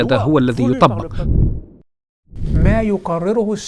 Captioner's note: logo and sound effect